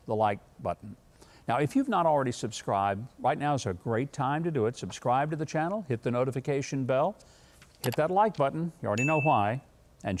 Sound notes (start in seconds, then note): 7.1 mouse clicks; 9.0 bell rings